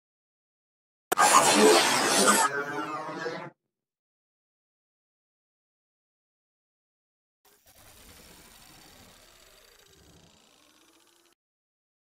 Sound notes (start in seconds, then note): 1.1 sound of robot